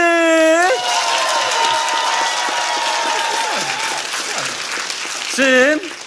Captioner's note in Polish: oklaski publiczności